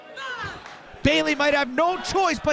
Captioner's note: fans chanting